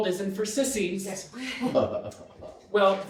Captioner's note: audience laughing